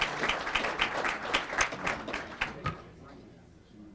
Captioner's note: applause